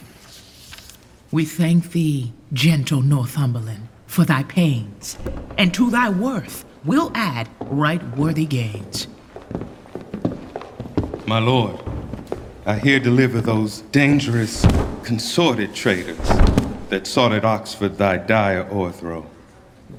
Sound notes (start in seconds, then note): 0.0 paper rustling; 8.7 approaching footfall; 14.5 thud; 16.1 thud